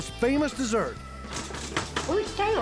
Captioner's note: rustling sounds offscreen